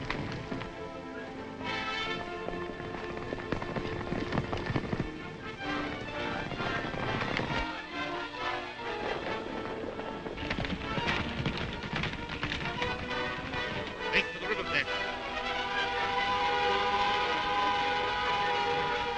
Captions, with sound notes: (horses galloping) (horses galloping) Take to the riverbed. (vehicle buzzing)